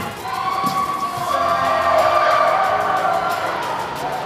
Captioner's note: cheers